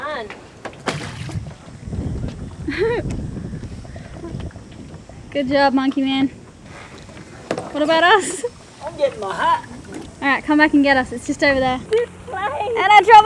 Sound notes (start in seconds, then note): 2.6 laughing